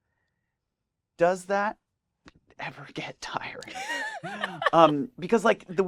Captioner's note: laughs